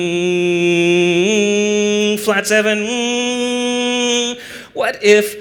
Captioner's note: hum